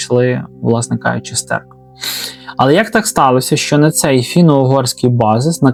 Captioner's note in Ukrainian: сопіння